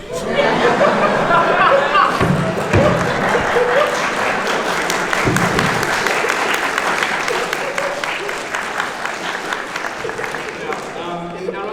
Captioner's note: everyone laughs